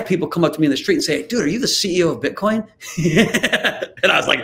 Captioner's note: laughs